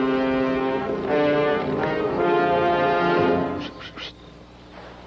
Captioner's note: Bernardo mimics sword swish